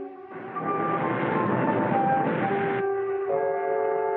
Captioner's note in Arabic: الأمواج تتلاطم